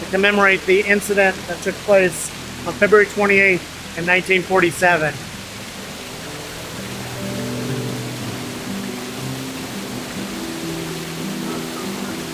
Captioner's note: water rushing